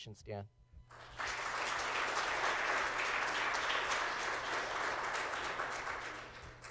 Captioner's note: applause